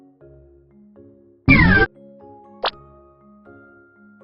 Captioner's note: fail sound; click sound